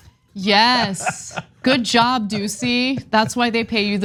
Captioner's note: laugh